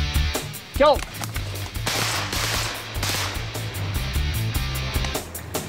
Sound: gunshots

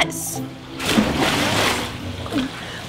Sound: splash; gulps

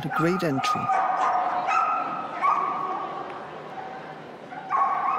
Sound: dog barking

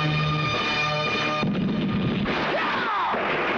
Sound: explosion

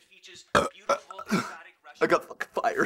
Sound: belch

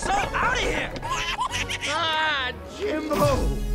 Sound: chitters excitedly

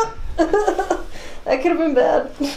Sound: laughs

